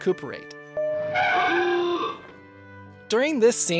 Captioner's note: tires screeching, car honk